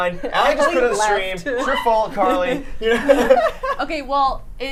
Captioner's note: laughing